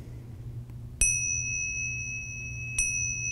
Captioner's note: bell chimes